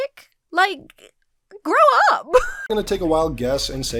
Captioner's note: laughs